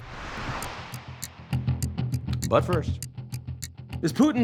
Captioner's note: clock ticks